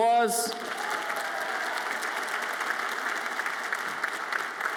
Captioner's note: audience applauds